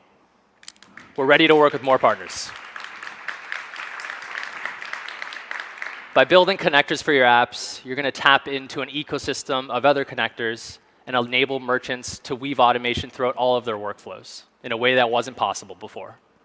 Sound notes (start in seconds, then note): 3.1 audience claps